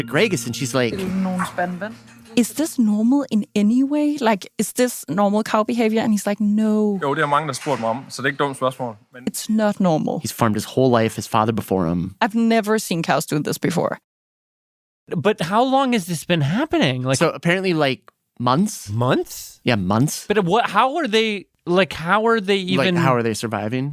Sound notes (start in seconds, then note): 8.3 speaking Danish